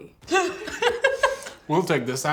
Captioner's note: laughing